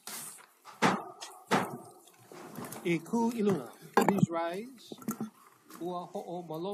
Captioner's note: gavel bangs twice